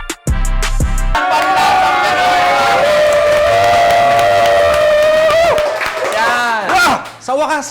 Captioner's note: crowd applauding